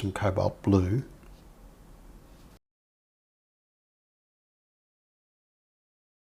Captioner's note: silence